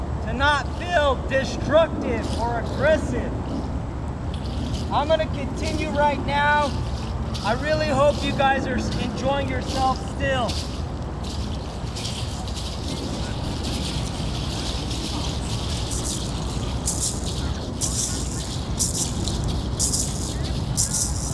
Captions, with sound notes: to not feel destructive or aggressive. I'm gonna continue right now. I really hope you guys are enjoying yourselves still. (rattles sounding)